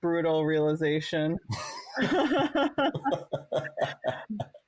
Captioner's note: laughs